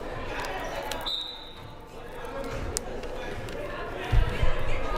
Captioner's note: whistle blaring